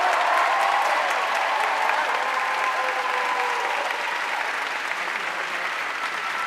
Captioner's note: audience cheering and applauding